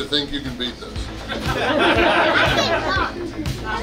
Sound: hahaha

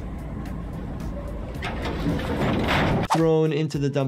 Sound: dumpster creaks; body thuds

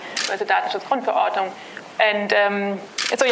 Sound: german

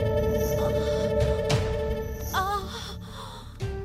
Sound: moaning

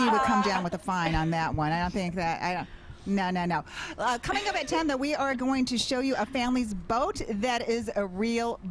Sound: laughter

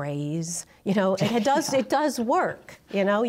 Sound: laughter

